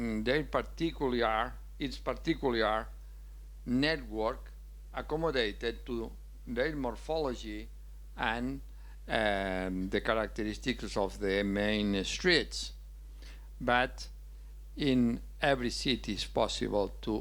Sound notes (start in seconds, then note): none